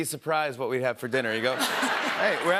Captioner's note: laughter